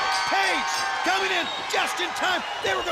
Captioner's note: bell ringing